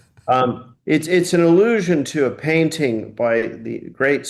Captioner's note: laughing